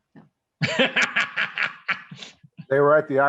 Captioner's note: laughs